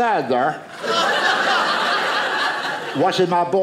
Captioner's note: audience laughing